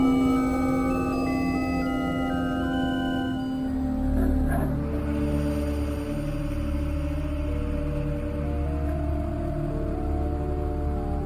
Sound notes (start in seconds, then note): 4.1 yeti's Making noise; 5.8 threatening music